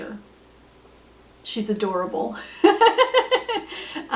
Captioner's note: laughs